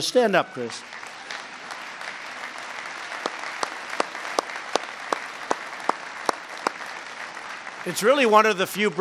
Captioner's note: applause